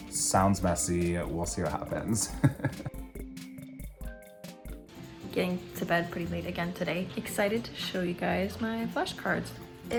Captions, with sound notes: Sounds messy. We'll see what happens. (chuckling) - Getting to bed pretty late again today. Excited to show you guys my flash cards.